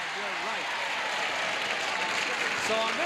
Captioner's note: audience cheers